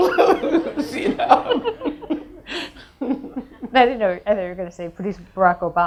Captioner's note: audience laughs